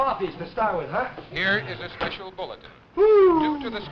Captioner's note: radio Announcer